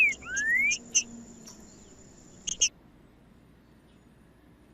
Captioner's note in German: trinca ferro cantando; trinca ferro cantando